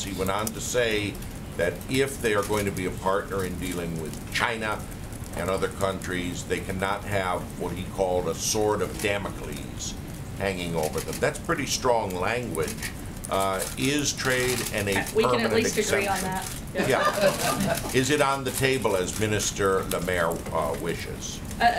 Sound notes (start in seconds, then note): 16.8 laughter